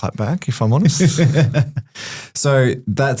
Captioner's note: laughs